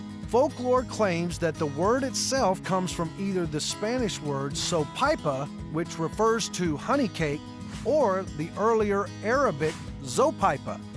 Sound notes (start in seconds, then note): none